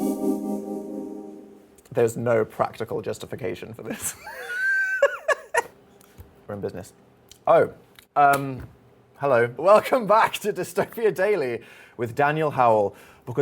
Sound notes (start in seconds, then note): 4.2 laughing